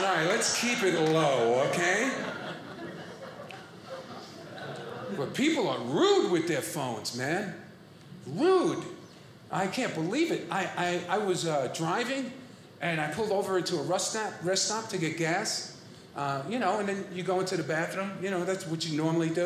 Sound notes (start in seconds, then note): 1.8 audience laughing